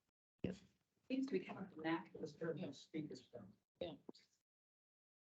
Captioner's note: indistinct chatter